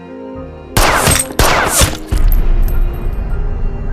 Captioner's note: gun shot, glass breaks, gun shot